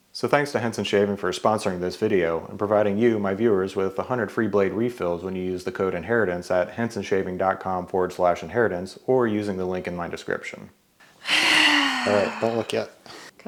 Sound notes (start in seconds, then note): 11.2 wife sighs